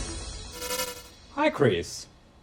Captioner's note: screen turning on